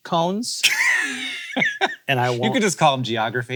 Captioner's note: laughs